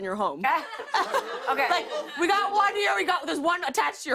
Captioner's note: laughs